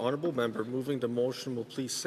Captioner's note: speaking indigenous language